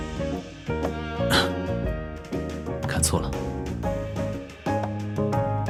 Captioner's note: coughs